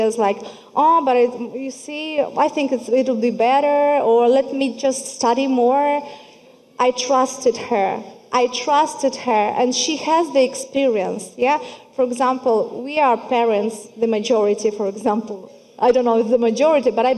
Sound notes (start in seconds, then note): none